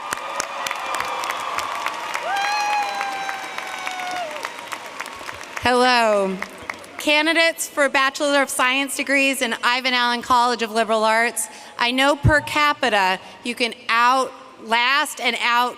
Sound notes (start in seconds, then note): 4.2 applause